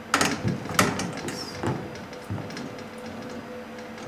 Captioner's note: quietly